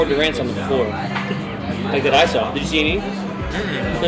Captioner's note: laughs